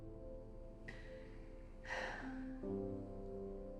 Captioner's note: sigh